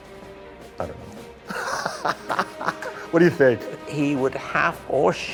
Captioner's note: laughter